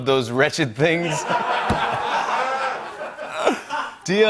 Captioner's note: laughter